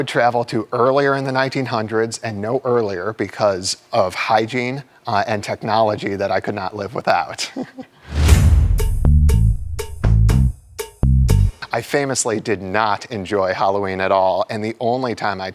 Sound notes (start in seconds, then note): 7.4 chuckles; 8.3 upbeat music